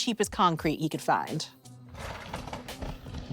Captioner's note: bobsled rattling